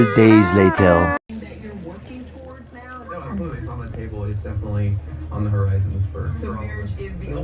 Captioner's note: "Entertainment Tonight" plays on TV in background